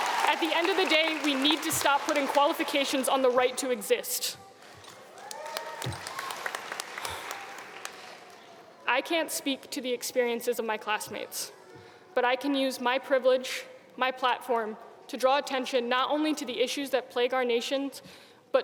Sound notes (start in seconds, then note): 5.1 audience cheering